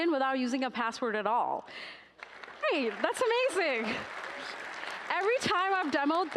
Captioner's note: applause